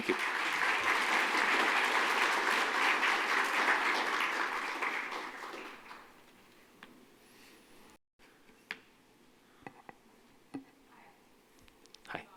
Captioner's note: applause